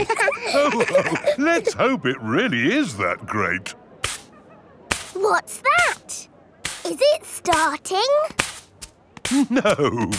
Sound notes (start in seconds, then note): 0.0 all laughing; 4.0 brushing